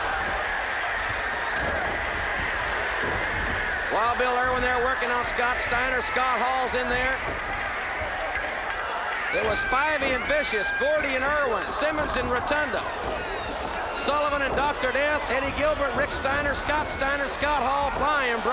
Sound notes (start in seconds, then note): 0.2 crowd cheering; 9.5 crowd chatter